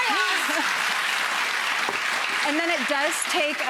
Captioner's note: applause